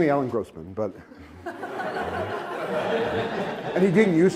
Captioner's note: laughter